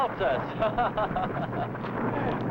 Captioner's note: laughing